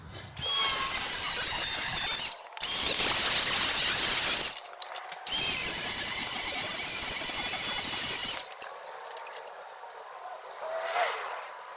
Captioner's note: machine buzzing